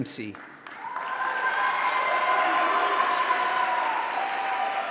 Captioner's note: audience cheering